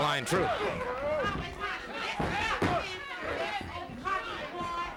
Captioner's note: crowd yelling